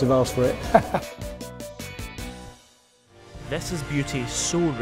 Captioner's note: laughs